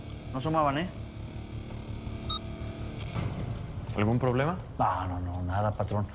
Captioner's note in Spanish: Bip